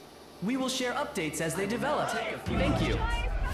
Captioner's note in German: Presse schreit